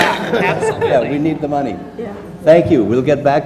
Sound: laugh; laugh

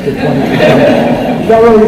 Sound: laughter

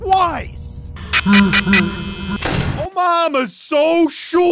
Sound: creepy chuckle

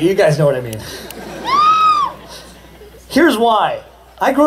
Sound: laughter and Cheering

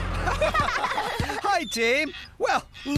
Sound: laughter

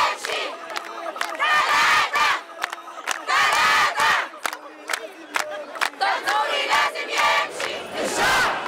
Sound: chants

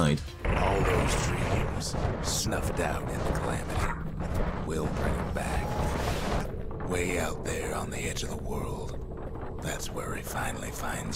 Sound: in-game audio

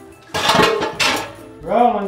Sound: keg clanks

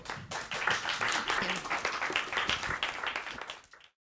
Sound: applause

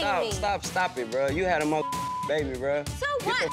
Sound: beep

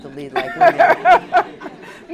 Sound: laughter

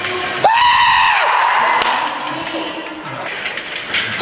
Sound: customer screams

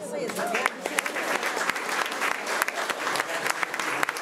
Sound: crowd clapping

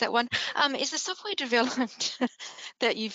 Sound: chuckles

